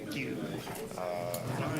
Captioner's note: general chatter